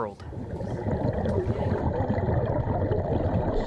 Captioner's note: water gurgling